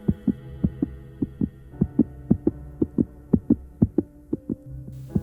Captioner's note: heart beat